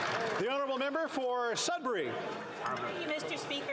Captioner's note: some Applause